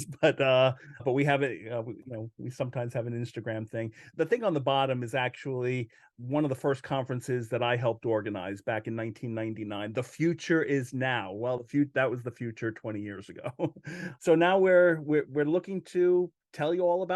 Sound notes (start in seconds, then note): 13.7 laughs